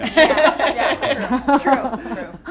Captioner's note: laughing